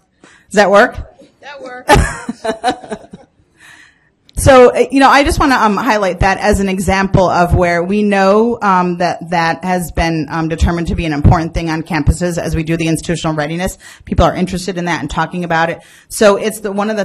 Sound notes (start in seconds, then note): 1.7 voiceover; 1.8 laughing